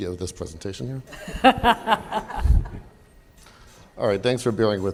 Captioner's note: laughter